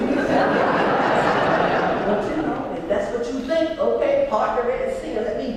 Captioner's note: laugh